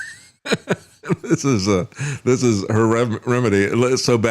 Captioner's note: laughs